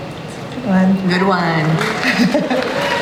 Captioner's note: laughs